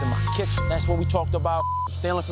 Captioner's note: beep